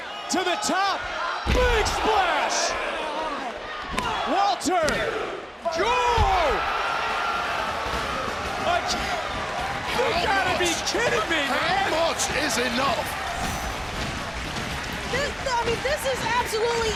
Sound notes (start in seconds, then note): 7.0 applause